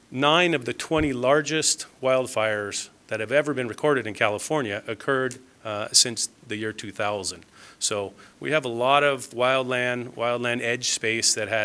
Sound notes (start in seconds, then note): none